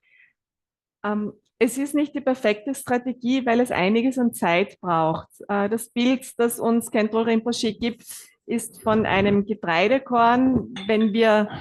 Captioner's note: German live translation